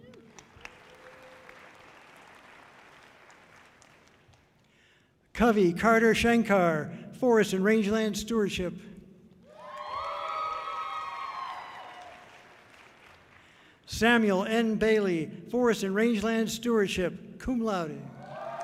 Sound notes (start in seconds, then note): 0.0 audience clapping loudly; 9.5 audience cheering loudly